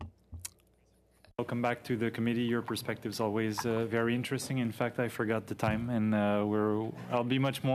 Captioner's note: speaking French